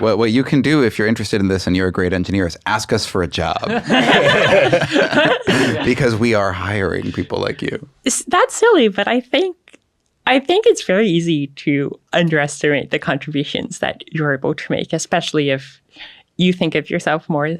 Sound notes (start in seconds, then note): 3.4 everybody laughs